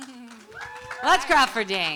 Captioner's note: audience applauds and cheers